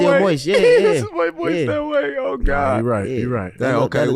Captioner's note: laughs